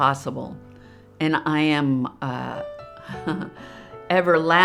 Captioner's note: chuckles